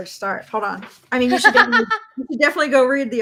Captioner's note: laughs